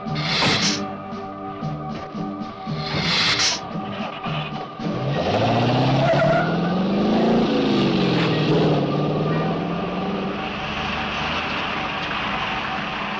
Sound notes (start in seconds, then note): 0.1 lizard hissing; 3.8 engine cranks; 5.3 engine revving